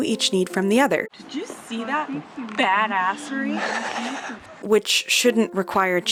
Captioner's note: laughs